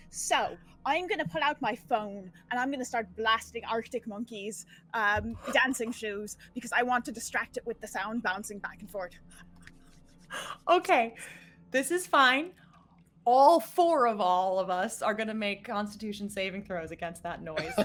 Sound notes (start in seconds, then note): 10.8 laughing